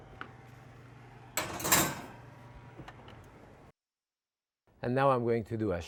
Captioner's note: tray clattering